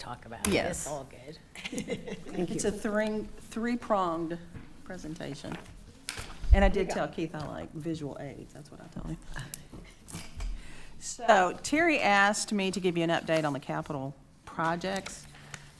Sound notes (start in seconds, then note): 1.6 attendees laughing